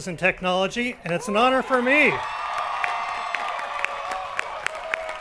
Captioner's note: crowd applauding